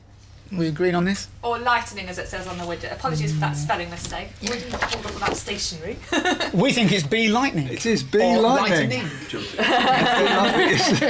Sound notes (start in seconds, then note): 5.8 laughs; 9.4 laughter